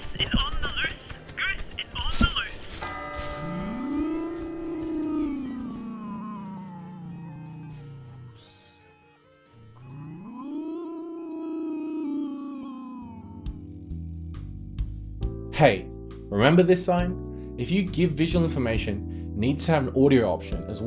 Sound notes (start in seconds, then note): 2.9 bushes rustling; 4.4 bell tolls; 4.4 spooky noises